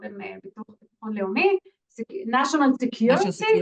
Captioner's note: non-english